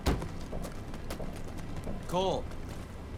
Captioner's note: footsteps crunching